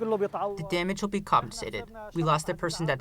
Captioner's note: through translator